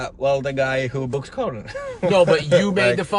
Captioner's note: laughs